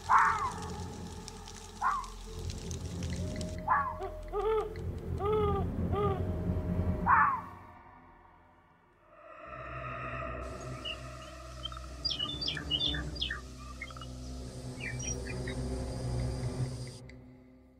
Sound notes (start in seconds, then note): 7.0 owl hoots; 10.4 birds chirping; 15.0 eerie music